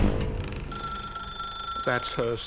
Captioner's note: telephone ringing